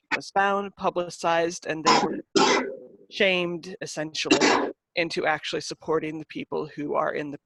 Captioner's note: coughing in the background